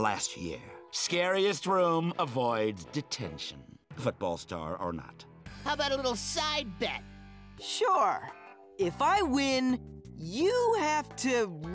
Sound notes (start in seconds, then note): none